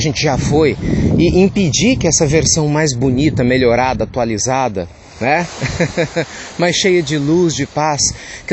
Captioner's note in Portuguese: risos